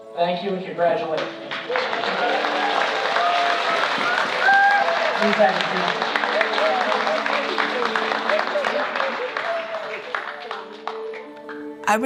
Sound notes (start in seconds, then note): 1.6 crowd applauding and cheering; 8.6 gentle music